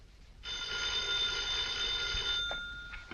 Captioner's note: phone ringing